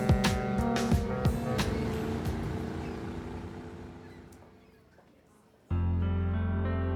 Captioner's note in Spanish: Sirenas del barco